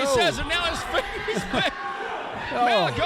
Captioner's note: laughs